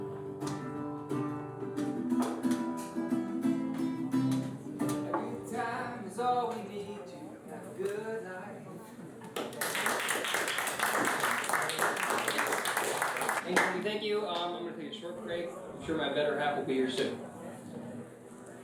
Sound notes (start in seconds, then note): 0.0 gentle guitar music; 9.4 audience applauding